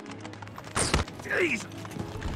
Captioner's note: gunshot